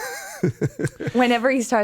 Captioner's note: Justin laughs